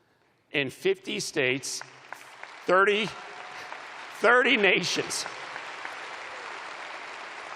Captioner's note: applause